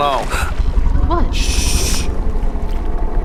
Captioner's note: gasps